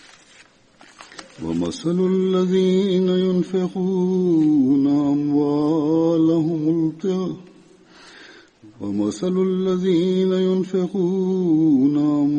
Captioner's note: Arabic - Holy Quran 2:266